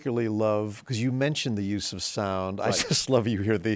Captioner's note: chuckles